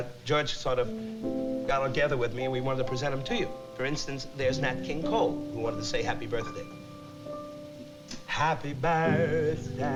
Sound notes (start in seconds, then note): 7.2 impersonating nat king cole; 7.2 singing